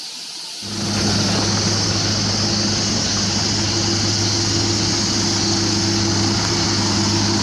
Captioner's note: engine